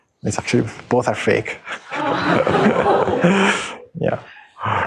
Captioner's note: chuckling